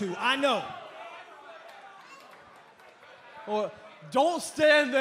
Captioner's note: crowd cheering